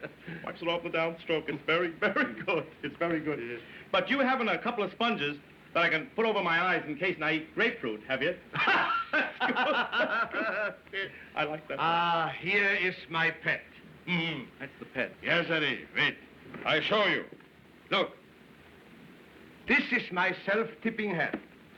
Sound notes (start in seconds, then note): 8.5 both Laughing; 13.4 chuckles